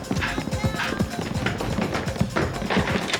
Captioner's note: panting; footsteps